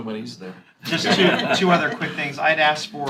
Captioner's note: laughter